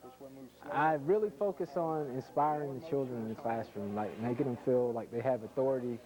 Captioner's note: voice-over